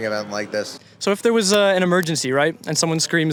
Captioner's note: camera glitch